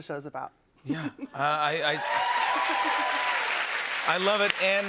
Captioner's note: cheers and applause